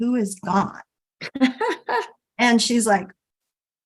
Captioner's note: person giggling